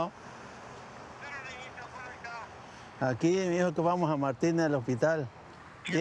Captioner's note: conversation in Spanish